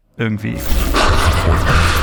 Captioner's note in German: Glitch